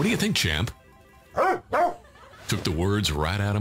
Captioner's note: barks twice